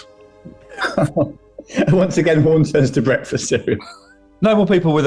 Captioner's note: chuckling